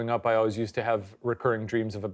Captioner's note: none